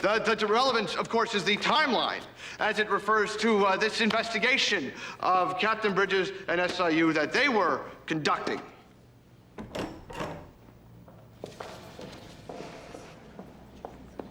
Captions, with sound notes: The-The relevance, of course, is the timeline as it refers to, uh, this investigation of Captain Bridges at SIU that they were conducting. (door opens)